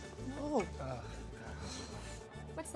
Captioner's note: Donovan groans